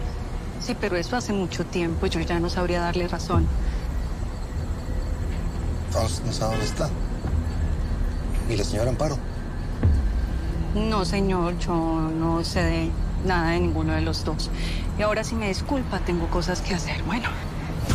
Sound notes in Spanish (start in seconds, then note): none